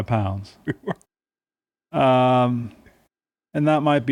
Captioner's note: laughing